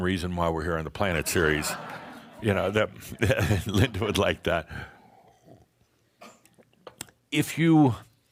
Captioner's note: laughter